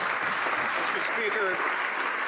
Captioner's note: some Applause